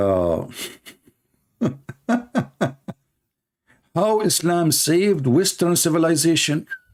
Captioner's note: Ketawa